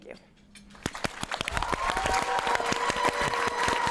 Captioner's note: applause